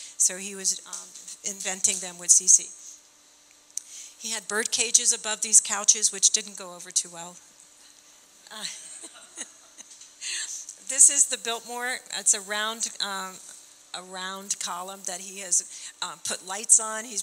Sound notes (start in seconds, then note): 8.5 laughing